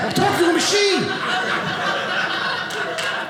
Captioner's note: audience laughing